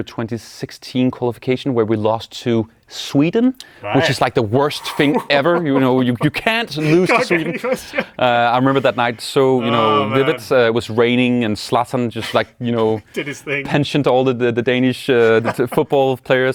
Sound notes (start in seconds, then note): 7.6 laughs